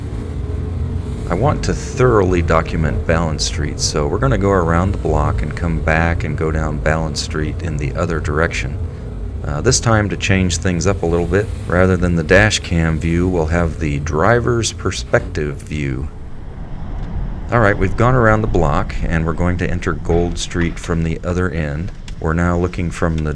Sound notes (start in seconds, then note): 16.2 car and road noise at normal speed